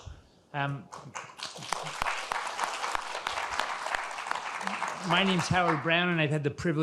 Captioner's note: audience applauding